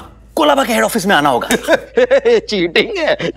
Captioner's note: Laughs